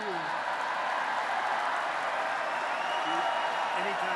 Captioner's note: applause